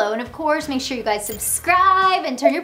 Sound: graphics blipping

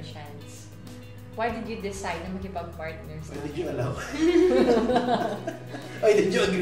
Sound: laughs

